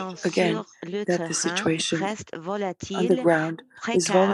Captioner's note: speaking French